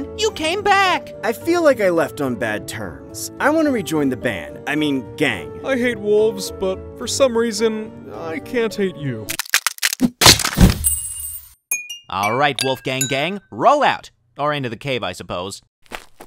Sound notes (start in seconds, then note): 9.3 stalactite cracks